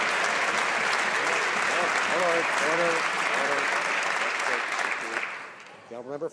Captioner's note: some Applause